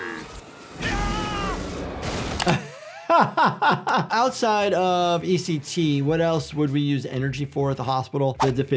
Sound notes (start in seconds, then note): 0.8 Stewie screaming; 0.8 light sizzling; 2.4 laughing